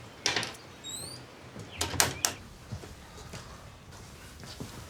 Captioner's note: door squeaking